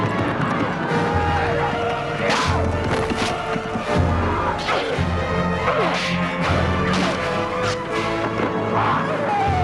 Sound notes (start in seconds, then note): 4.8 both grunting